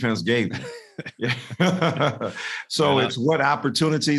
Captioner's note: both laughing